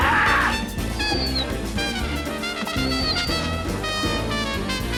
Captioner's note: dog whimpers; roars